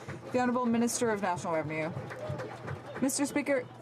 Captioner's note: some Applause